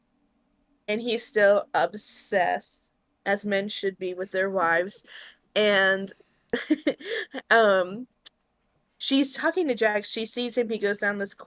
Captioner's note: laughs